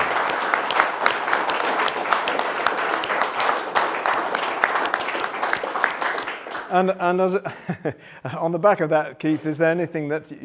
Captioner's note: applause